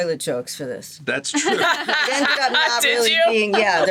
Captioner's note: laughs